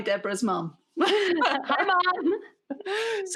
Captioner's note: both chuckles